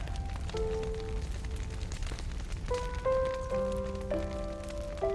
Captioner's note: somber music; flames crackling